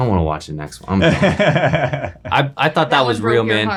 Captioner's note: laughing